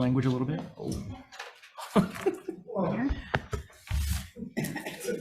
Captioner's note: laughs